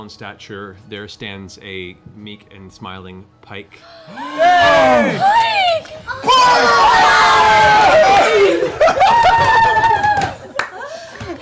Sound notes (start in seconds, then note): 4.0 cheering